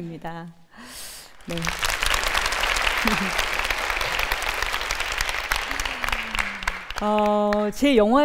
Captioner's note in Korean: 박수와 환호